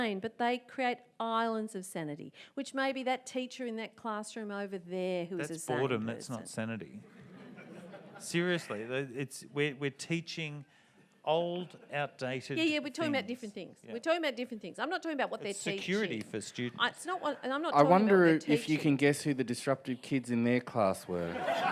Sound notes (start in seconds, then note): 7.1 audience laughs; 21.1 audience laughs